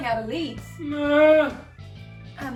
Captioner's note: sad whine